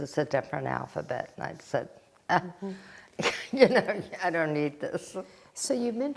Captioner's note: laughing